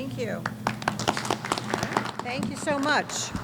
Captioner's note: applause